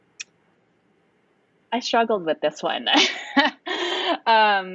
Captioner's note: laughing